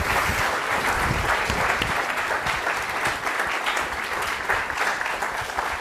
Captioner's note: applause; applause continues